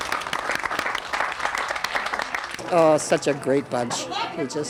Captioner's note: all applauding